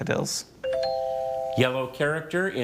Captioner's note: tone chimes